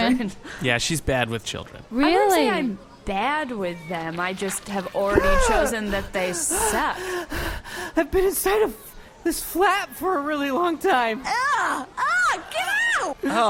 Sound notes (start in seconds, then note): 6.5 gasping for air